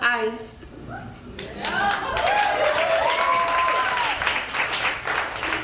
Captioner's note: crowd cheers and applauds